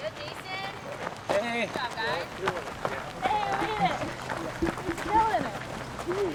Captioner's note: cheering